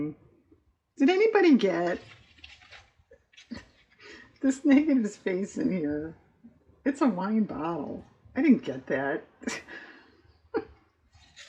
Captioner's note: laughs